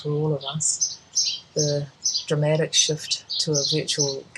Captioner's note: birds chirping loudly